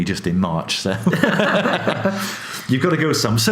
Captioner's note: laughs